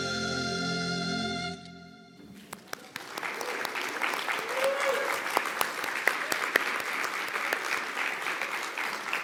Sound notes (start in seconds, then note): 2.4 audience applauding; 2.7 audience cheering